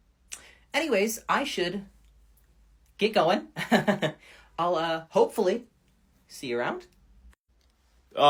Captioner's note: laughs